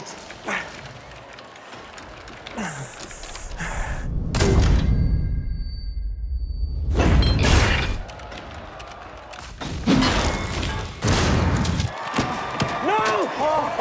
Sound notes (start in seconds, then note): 0.2 grunting; 4.8 high pitch frequency resonating; 7.3 grenade exploding; 9.6 guns firing; 13.5 laughing